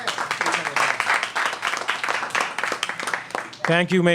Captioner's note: applause